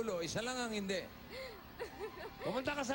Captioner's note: chuckles